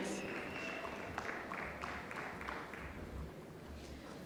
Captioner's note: applause